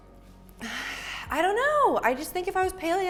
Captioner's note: sighs